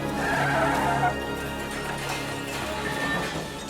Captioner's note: tires screeching